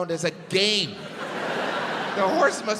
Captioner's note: crowd laughs